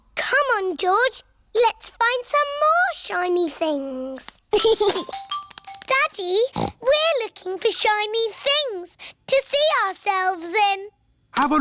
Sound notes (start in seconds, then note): 4.5 giggles; 6.5 snorts